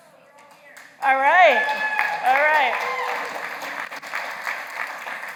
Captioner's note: applause